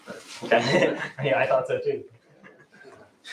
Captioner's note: laughs